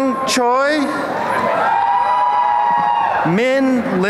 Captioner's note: applause and cheering